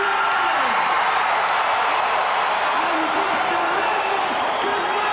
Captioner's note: audience cheering